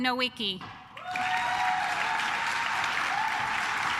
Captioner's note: claps